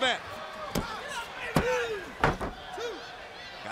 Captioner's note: crowd chatter